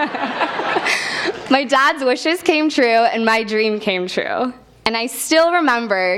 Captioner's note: laugh